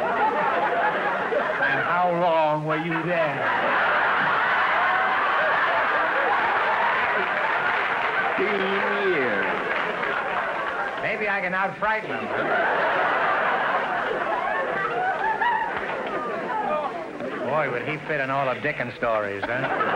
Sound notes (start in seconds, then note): 0.2 audience laughter; 3.6 audience howling; 9.0 audience laughter; 12.3 audience laughter; 19.7 audience laughter